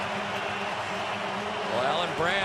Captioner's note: pa announcement